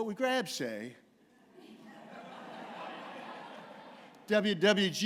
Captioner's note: laughter